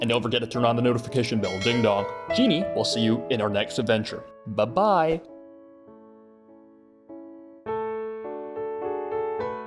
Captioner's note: ding dong